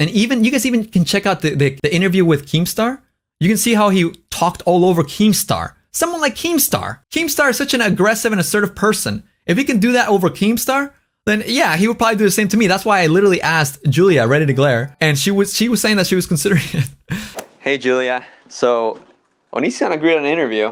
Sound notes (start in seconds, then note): 17.0 laughs